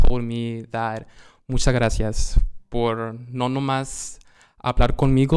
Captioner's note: speaking Spanish